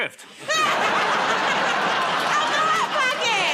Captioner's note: laughter